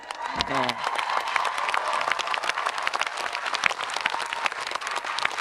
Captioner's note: audience applauding and cheering